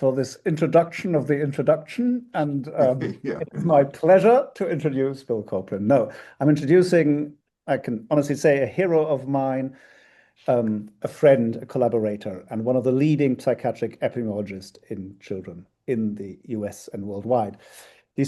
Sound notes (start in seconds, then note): 2.8 chuckles